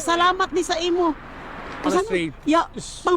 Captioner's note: woman speaking in foreign language